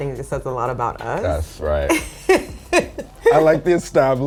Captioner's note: laughs